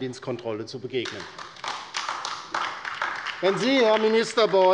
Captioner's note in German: Beifall bei der LINKEN